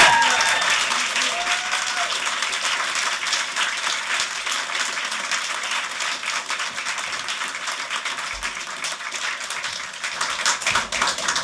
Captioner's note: applause